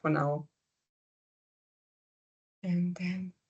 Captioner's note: silence